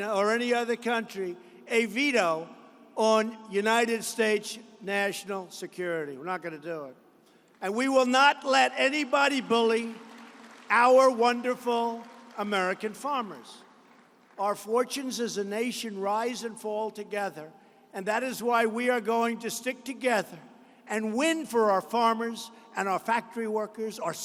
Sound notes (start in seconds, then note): 9.4 applause